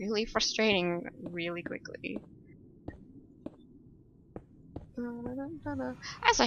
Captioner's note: hums